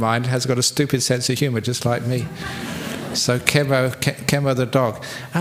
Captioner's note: laughter